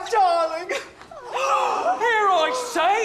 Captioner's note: bridesmaids gasp